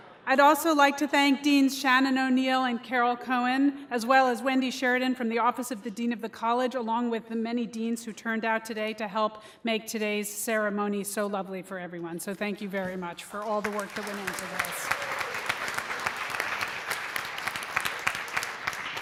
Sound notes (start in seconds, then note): 15.0 applause